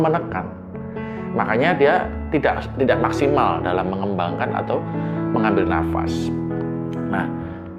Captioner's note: shortness of breath